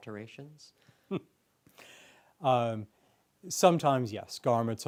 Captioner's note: chuckles